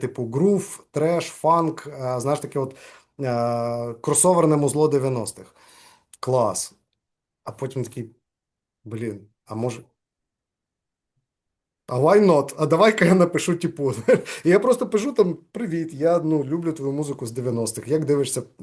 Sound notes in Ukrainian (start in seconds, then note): 14.0 сміється